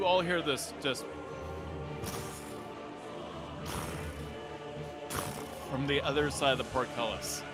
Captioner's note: mimics heavy footsteps